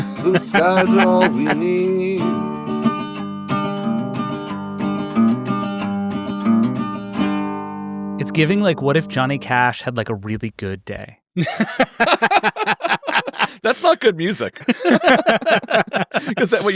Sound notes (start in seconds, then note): 2.6 soft guitar music; 11.4 laughing; 14.6 attendees laughing together